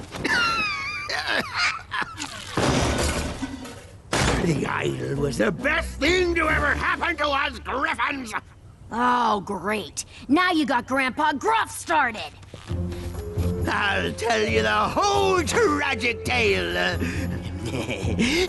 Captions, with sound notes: [cough] [crash] The idol was the best thing to ever happen to us griffons! Oh, great! Now you got Grampa Gruff started. I'll tell you the whole tragic tale...heh heh heh.